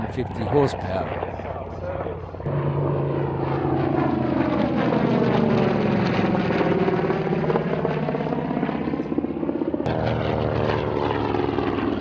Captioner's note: aircraft sounds